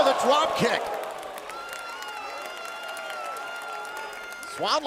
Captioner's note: crowd cheering